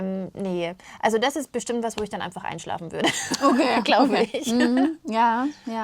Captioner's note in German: gelächter